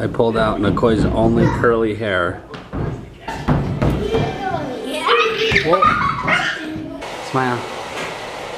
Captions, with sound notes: I pulled out Nikoi's only curly hair. (screaming) Smile.